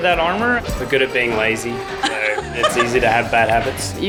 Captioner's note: woman laughs